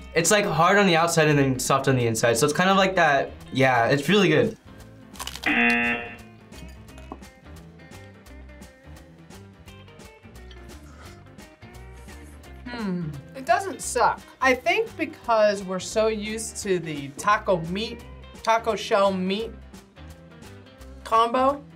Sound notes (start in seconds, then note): 5.4 buzzer rings